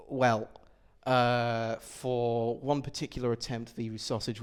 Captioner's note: none